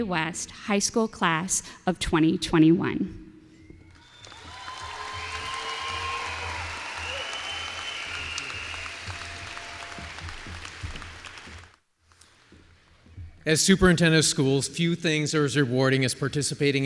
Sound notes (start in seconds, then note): 3.9 applause